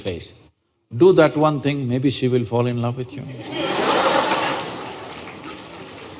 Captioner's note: laughter